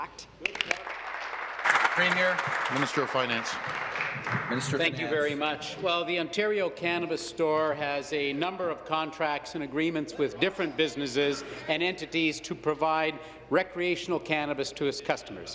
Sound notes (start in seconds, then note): 5.5 some Applause